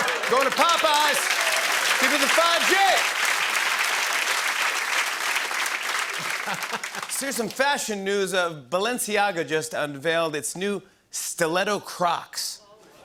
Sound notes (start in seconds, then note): 3.4 applause